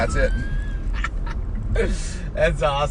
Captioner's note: laughing